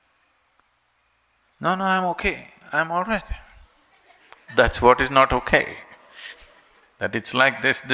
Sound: laughs

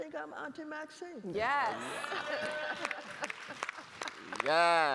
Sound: audience cheering

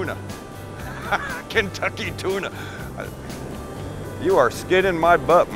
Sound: laughing

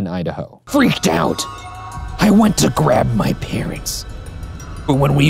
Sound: raspy

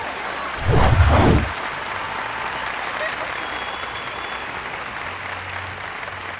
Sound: applauding

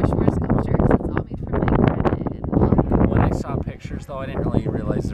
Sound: heavy wind noise

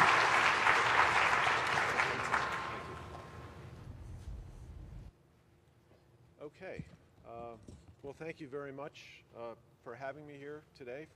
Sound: applause

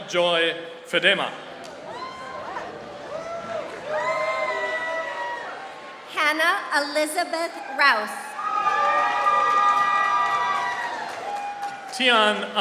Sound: applause

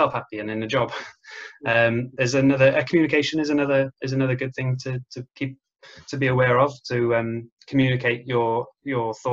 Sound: laughs

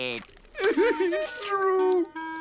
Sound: crying

